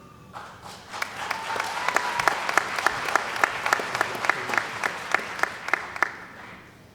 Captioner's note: cheering & Applause